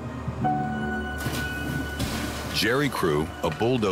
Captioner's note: ominous music; water splashing